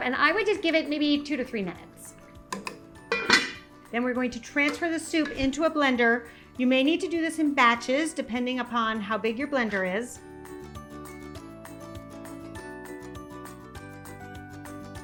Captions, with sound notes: and I would just give it maybe two to three minutes. (lid clanks) Then we're going to transfer the soup into a blender. You may need to do this in batches, depending upon how big your blender is. (bright upbeat music)